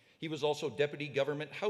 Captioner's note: none